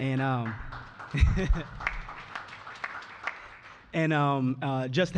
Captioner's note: applause